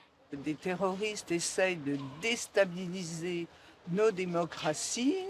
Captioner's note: speaking in foreign language